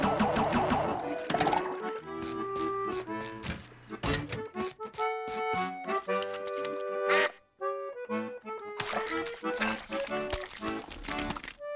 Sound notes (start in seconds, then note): 7.0 quacking